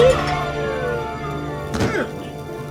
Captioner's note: siren wailing; cook thuds; cook groans